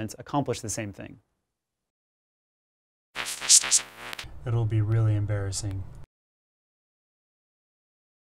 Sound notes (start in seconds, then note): 3.1 electronic noises